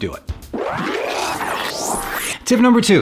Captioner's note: sped-up electronic sound